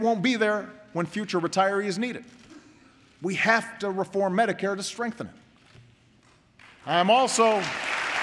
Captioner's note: applause